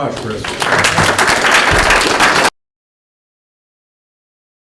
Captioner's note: applause